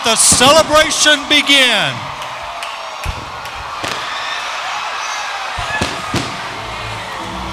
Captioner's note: fireworks exploding